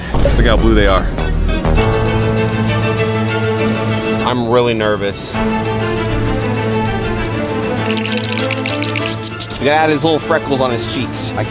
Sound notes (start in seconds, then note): 0.1 dramatic thud; 1.8 clock ticking; 1.9 suspenseful dramatic music; 5.3 clock ticking; 5.5 suspenseful dramatic music